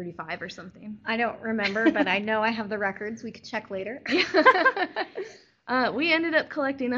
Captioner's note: laughter